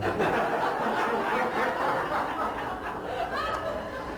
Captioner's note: laughter